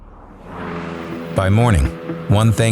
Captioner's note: car revs